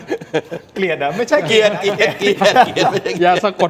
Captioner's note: laughs